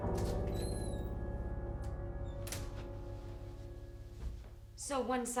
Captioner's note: door creaks and closes